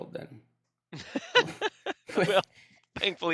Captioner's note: laughing